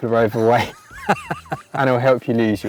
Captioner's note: both laughing